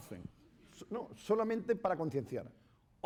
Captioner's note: speaking spanish